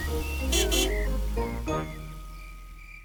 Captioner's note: horn honks